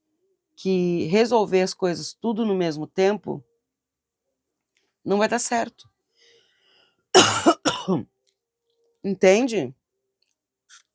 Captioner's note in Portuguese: tosse